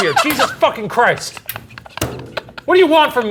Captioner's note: laughing